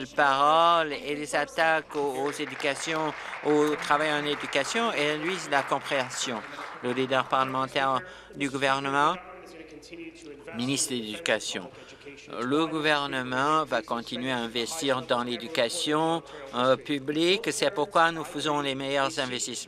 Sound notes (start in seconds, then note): 5.3 applause